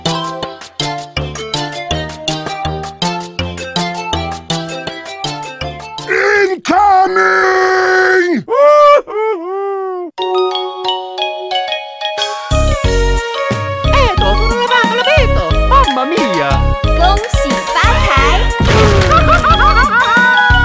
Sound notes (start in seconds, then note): 16.5 person speaking japanese; 19.0 Mario says HAHAHAHAHAHAHAHAAAAAAAA!